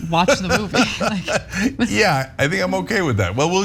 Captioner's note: laugh